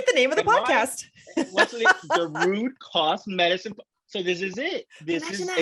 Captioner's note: laughs